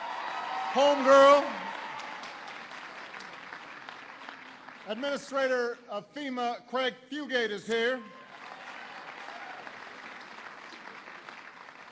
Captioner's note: applause